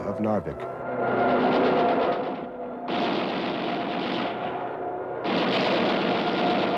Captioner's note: plane engine roars; gunfire